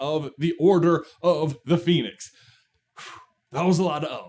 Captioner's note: exhale